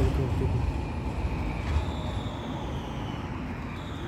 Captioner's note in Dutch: tram geluiden